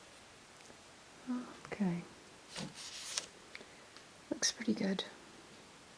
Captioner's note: none